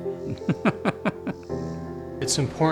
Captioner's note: laughs